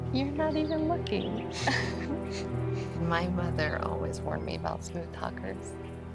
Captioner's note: birds chirping; giggles